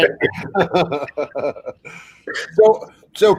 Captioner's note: all laugh